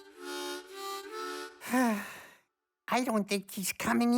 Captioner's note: sighs